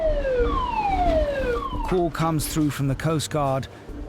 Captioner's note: siren wailing